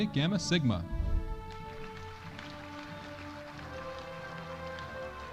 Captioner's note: audience applauding